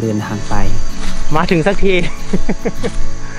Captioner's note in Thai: หัวเราะ